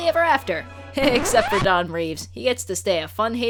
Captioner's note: record scratch